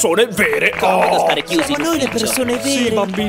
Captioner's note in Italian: applausi